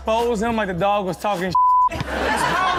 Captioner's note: beep